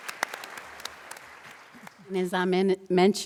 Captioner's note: applause